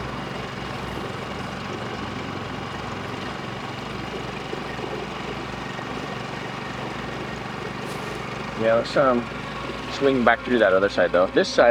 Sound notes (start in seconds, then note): 0.9 brooding music; 0.9 engine rumbling